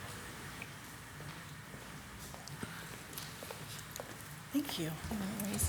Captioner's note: footsteps clacking